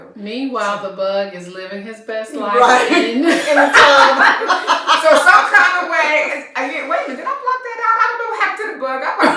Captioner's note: laughter